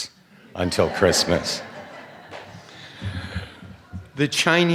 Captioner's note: laughter